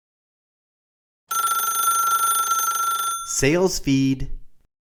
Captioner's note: phone ringing